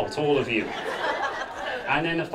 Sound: audience laughing

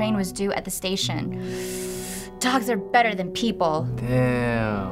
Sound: sucks in breath

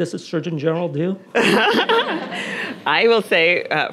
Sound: Nadine laughing; audience laughing

